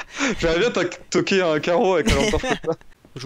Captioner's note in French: rire